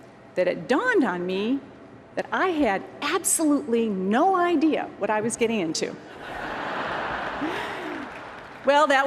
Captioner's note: laughter